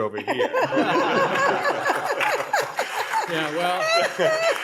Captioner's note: people laughing